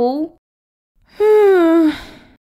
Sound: sigh!

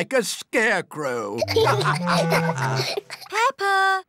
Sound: laughter

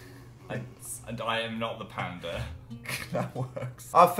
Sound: laughs

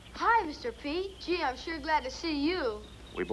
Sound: none

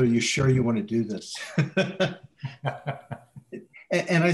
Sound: laughter

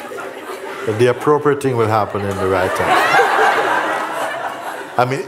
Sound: laughter

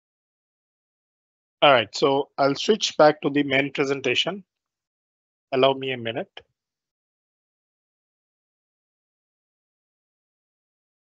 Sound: silence

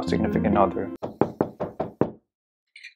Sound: knock knock

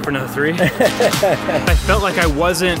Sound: chuckles

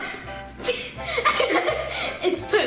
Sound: laughs

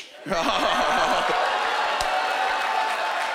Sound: laughing

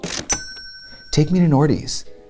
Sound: cash register dings

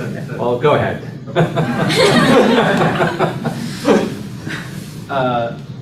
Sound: laughter

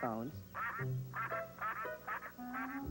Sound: quacking

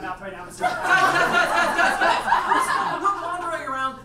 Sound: audience laughs

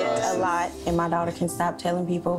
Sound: all agreeing

